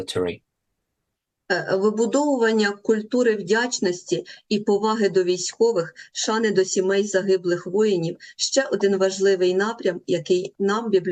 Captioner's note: foreign language